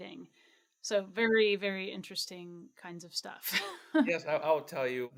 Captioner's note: chuckles